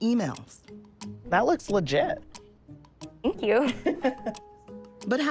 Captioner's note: laughs